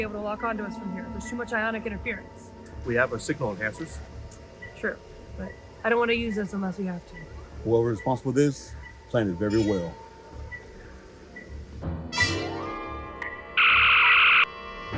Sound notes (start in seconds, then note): 11.9 signal beeping; 13.5 phaser fire